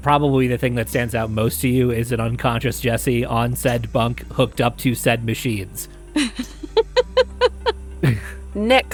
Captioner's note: chuckles